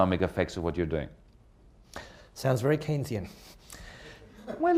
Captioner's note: laughter